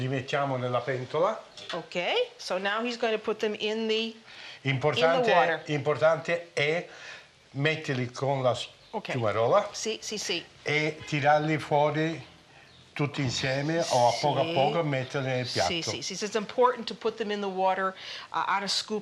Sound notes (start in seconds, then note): 0.2 speaking Italian; 6.0 speaking Italian; 11.0 speaking Italian